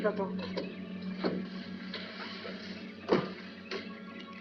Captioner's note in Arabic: يفتح باب السيارة ويغلق